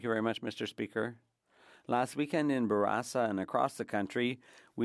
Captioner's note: speaking French